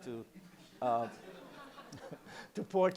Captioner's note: laughter